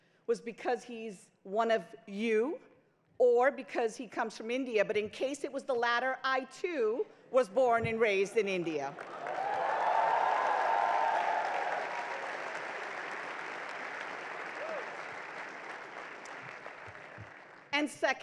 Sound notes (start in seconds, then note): 9.3 crowd cheers; 10.3 crowd applauds